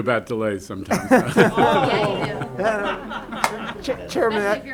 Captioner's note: laughter